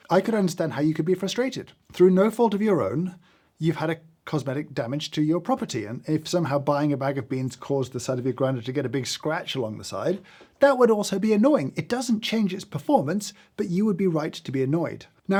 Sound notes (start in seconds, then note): none